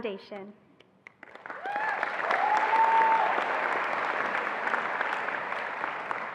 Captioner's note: attendees applauding and cheering